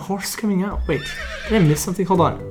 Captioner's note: horse neighing